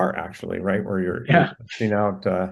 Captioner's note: laughs